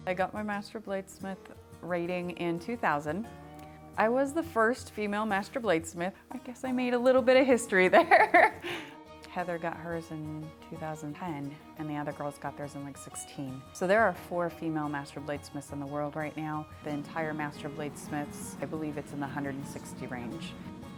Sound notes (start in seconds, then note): 0.0 lively country music; 8.0 laughs